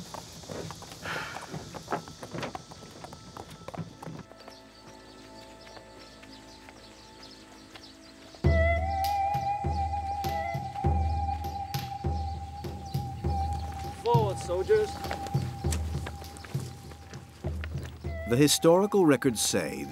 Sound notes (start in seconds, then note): 3.6 birds chirping; 8.6 gentle upbeat music